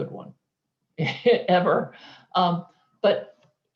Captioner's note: chuckling